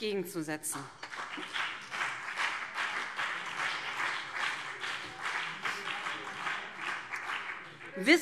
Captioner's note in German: Beifall BÜNDNIS 90/DIE GRÜNEN und CDU